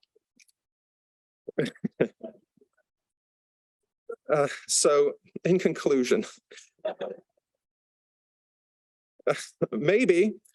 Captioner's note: laughs